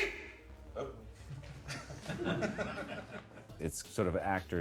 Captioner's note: chuckles